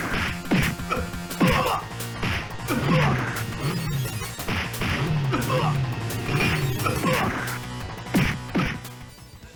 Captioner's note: more game sounds